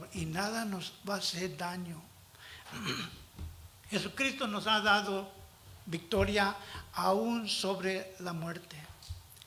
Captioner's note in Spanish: carraspeo